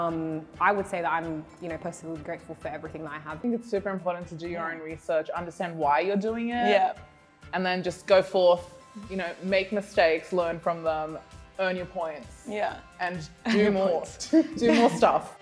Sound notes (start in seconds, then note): 12.4 laughs